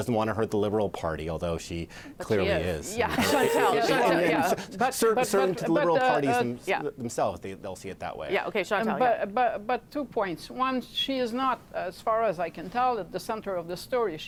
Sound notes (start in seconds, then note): 4.7 laughter